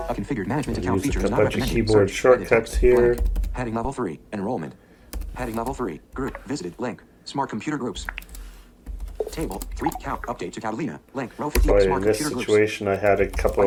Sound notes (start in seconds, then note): 0.0 computer voiceover; 3.4 computer voiceover